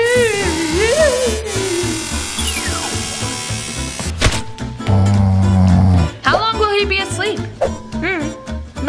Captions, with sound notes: Go to sleep! (beams activating) (splat) (snoring) - How long will he be asleep?